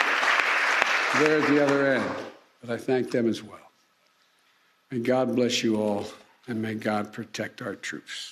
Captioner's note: applause